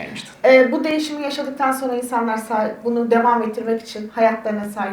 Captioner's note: speaks in Turkish